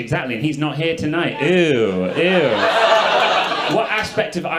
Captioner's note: audience laughing